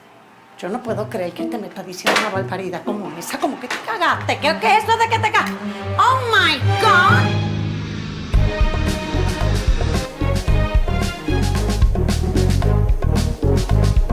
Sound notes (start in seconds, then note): 8.0 plane landing